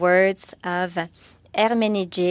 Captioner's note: speaking French